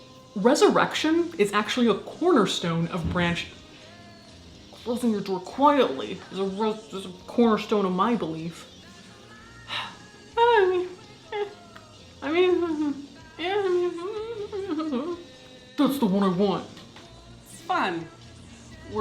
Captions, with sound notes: Resurrection is actually a cornerstone of branch- (door slams) Closing your door quietly is a cornerstone of my belief. (sighs) (playful murmuring) Eh, I mean, eh, eh. (playful murmuring) That's the one I want. It's fun.